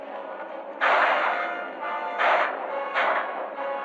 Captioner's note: gunshots